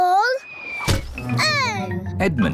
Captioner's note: oinks; thudding